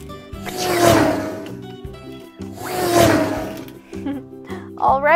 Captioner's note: car zooming